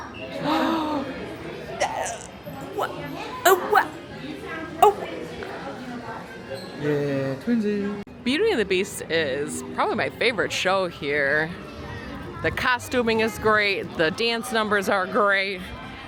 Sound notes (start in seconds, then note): 0.4 gasps